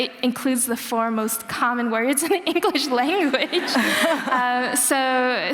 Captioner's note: laughter